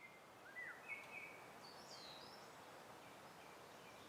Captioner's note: birds singing